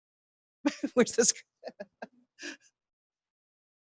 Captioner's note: laughing